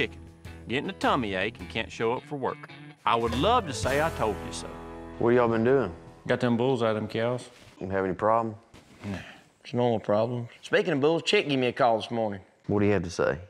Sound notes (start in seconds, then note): none